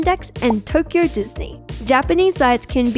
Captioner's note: deal card popping